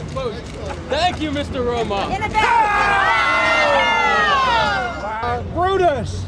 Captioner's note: screams